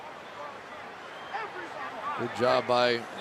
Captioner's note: arguing